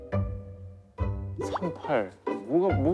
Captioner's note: hesitant